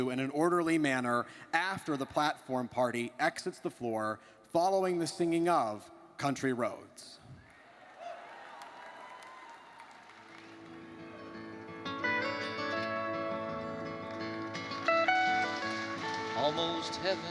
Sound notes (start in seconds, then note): 7.5 graduates cheer